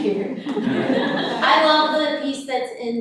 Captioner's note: audience laughing